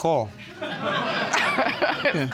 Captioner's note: audience laughing